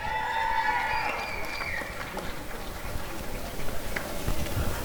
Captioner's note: applause and cheering